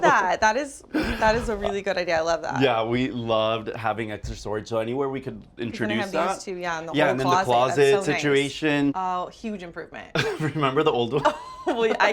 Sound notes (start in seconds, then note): 10.2 both laugh; 10.2 laughs